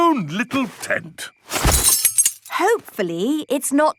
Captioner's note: clang-ruffle-thump